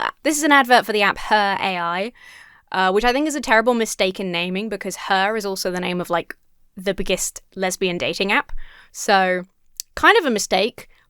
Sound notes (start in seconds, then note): none